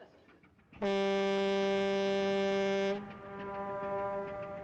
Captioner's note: horn Blowing